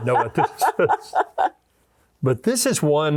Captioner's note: laughing